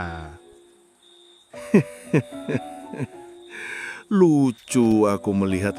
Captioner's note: laughs